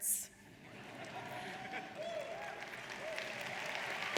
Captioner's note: audience cheers